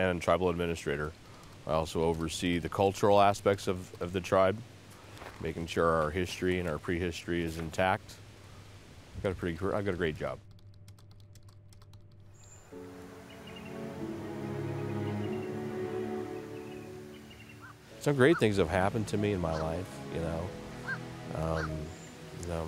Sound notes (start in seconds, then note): 10.4 typing on keyboard sounds; 12.7 violin music begins